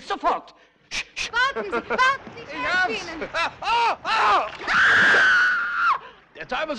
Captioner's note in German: Geschrei